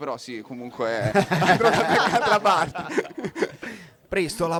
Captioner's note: risate